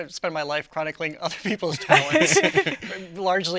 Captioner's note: laughing